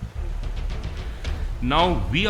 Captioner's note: water running